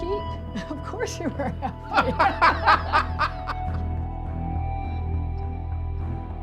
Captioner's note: laughter